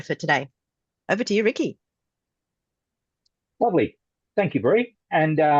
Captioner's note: Australian accent